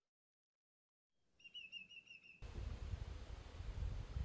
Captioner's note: greater Yellowleg call